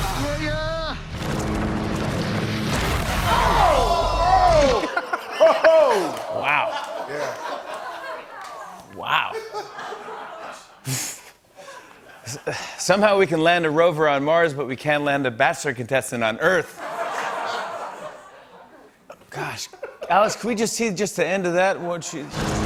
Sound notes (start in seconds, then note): 4.7 laughter